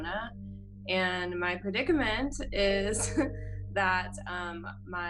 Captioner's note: chuckles